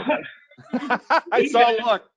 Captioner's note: laughing